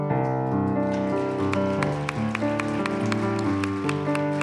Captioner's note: applause